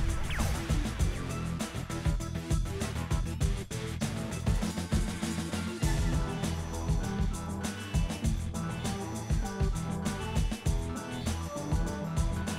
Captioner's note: vault opens with electric sound